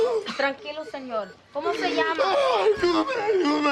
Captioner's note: speaking spanish